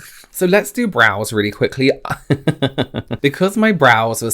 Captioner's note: laughs